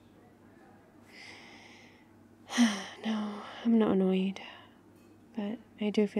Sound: sighs

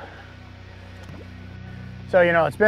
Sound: water bubbles

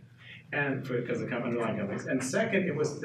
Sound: speaking faintly

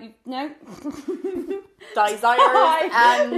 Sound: laughing

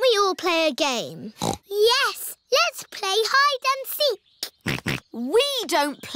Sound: snorts; snorting

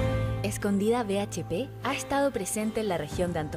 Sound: non-english speech

